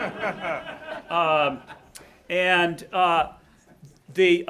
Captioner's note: audience laughing